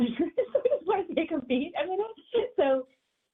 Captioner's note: laughs